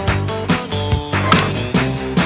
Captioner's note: crack ball on bat